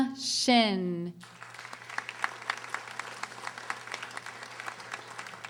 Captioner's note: audience applauding